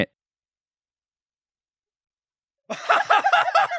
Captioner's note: dead silence